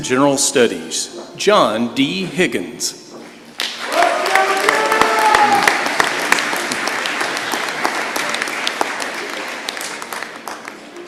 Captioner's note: applause